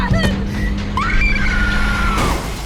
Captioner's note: Margot screaming; car crashing